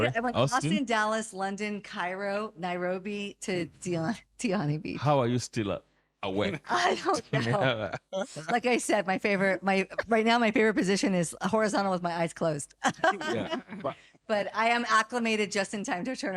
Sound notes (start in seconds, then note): 6.4 laughing